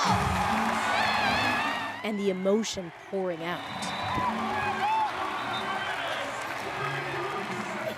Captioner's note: cheers and Applause